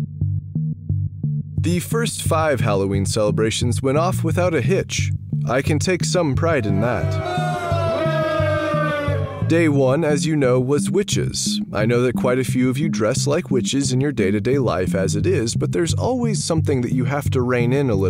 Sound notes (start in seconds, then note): 6.4 boo